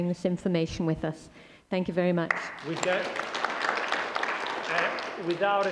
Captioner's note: applause